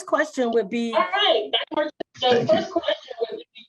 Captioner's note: attendee's speaker echoing